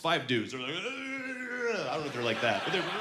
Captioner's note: grunting